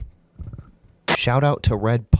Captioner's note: plop